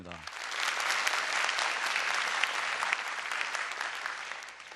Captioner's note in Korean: 박수